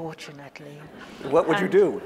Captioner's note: audience laughs